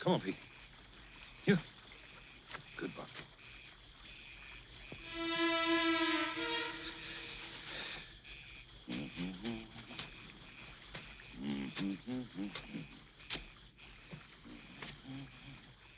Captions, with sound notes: Come on, Pete. Here. Good boy. (ominous music) (Booker T humming)